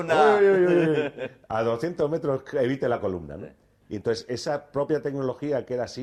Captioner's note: laughs